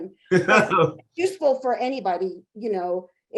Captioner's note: chuckling